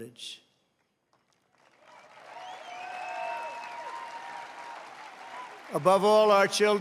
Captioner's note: applause